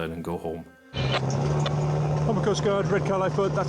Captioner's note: boat engine revving